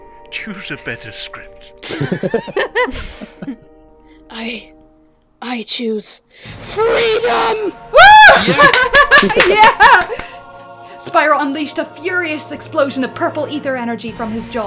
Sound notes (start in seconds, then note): 1.8 laughter; 7.9 whoops and cheers